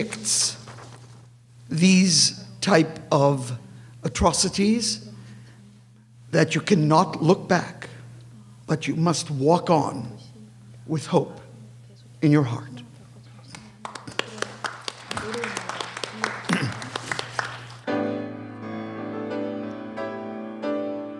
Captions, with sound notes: Which depicts these type of atrocities that you cannot look back, but you must walk on with hope in your heart. (applause) (lively piano)